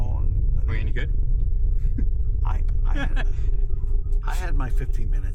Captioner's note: laughs